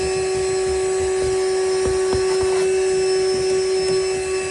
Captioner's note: vacuuming